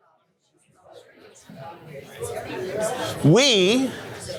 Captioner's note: chatter